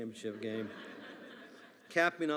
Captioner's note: attendees laughing